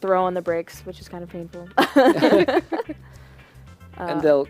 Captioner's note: laughter